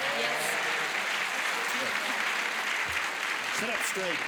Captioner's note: cheers and applause